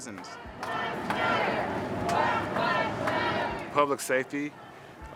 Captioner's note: people protesting